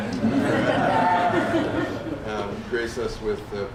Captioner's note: laughter